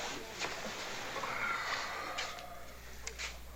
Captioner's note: exhales heavily